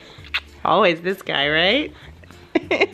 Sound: laughs

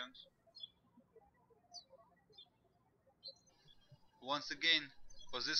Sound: birds chirping

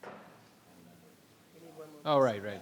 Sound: people chattering

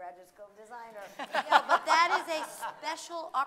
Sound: laughing

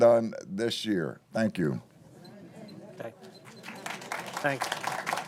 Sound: applause

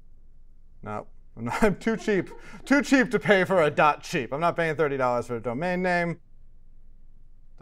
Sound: laugh

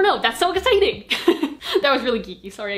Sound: geeky laugh

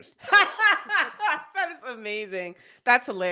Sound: laughs

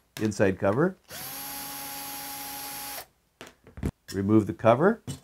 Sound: drill whirring

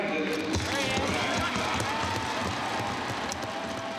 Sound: audience cheering

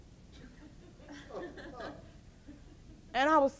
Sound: audience laughs

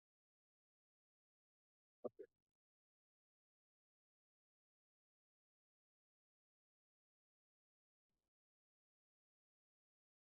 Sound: silence

